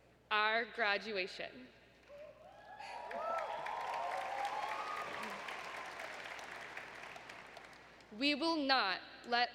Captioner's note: applause